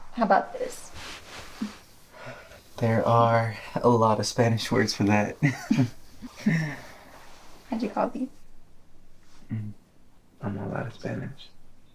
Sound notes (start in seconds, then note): 5.0 laughing